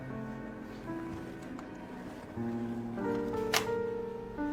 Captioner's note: none